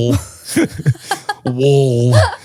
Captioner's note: both laughing